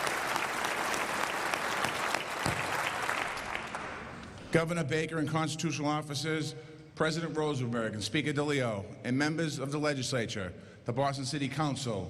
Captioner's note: applause